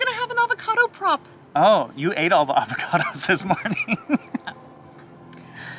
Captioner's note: chuckles